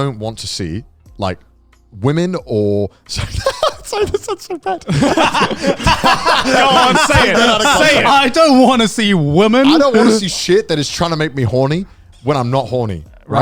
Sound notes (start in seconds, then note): 3.1 laughs; 5.3 all laughing